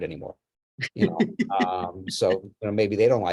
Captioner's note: laughs